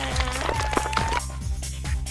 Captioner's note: applause